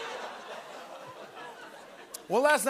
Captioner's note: ohhs